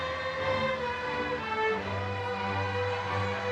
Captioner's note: crowd cheering